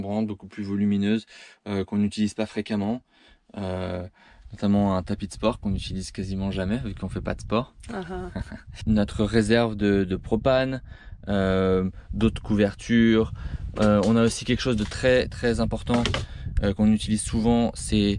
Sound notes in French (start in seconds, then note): 11.3 ahaha